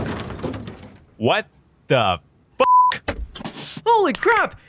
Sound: explosion bangs; beep

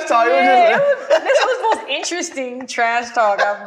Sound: laughing

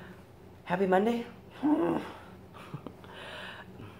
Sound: grrrrrrrrr

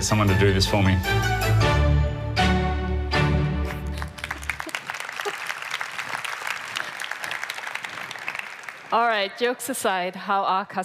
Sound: applause

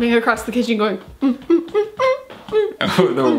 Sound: humming

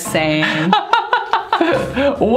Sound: laughs

